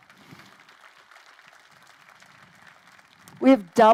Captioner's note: crowd applauding